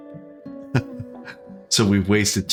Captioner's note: laughs